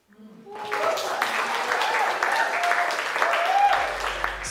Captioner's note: audience cheering